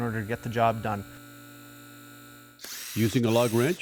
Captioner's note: lift whirring